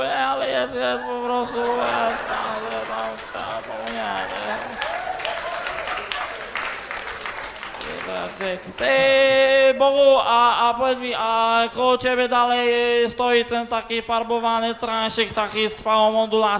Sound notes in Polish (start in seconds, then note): 1.9 Aplauz